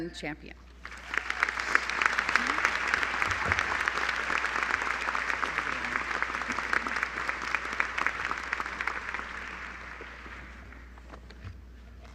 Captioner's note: applause